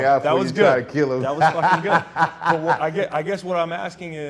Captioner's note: laughing